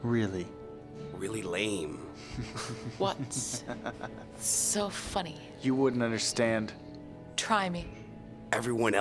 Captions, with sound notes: Really. Really lame. [Laughs] What's so funny? You wouldn't understand. Try me.